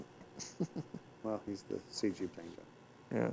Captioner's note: chuckles